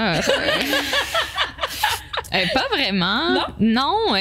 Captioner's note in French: rires